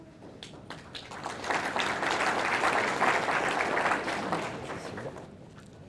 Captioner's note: audience applauding